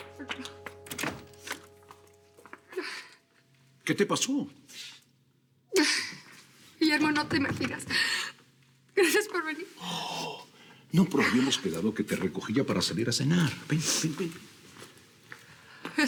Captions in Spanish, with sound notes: [Sollozos] >>¿QUÉ TE PASÓ? >>GUILLERMO, NO TE IMAGINAS. GRACIAS POR VENIR. >>¡OHHH! NO, PERO HABÍAMOS QUEDADO EN QUE RECOGÍA PARA SALIR A CENAR. VEN, VEN...